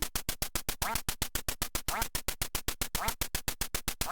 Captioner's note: ducks quack